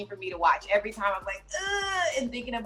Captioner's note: groans